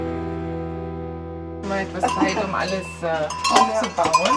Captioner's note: German conversation